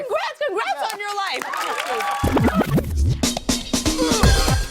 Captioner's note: cheers and applause